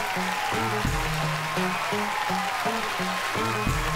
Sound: audience cheering

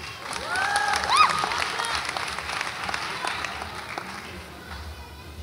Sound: audience applauds and cheers

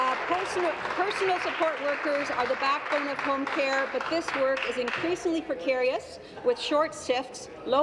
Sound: applause

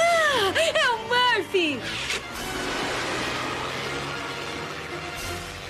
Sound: gasp

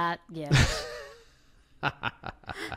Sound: laughs

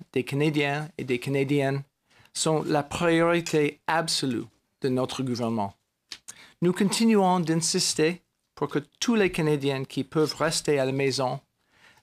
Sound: speaking french

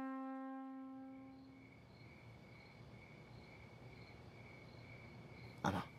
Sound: crickets chirping

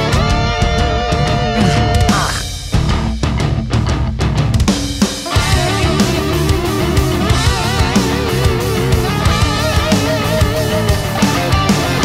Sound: dinosaurs fighting

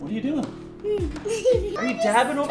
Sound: girls giggle

